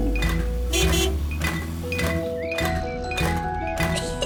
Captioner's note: horn honks; giggles